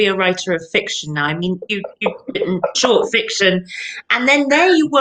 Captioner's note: laughs